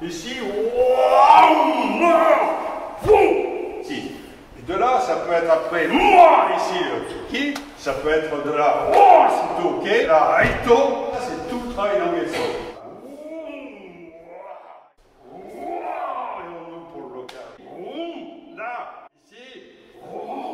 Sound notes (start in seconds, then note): 8.8 strikes